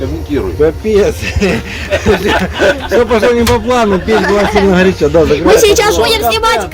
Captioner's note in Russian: все смеются